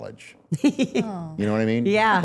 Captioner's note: laughing